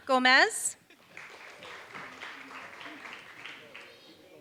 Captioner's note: applause